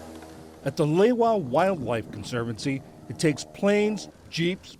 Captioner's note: voice-over